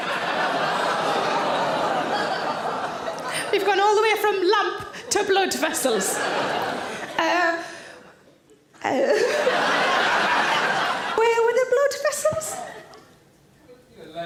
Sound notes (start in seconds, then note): 0.0 audience laugh and groan; 6.3 audience laughs